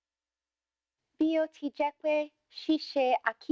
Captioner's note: speaking yoruba